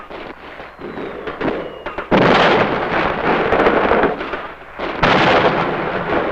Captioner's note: explosions booming; guns blasting